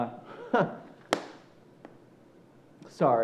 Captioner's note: chuckles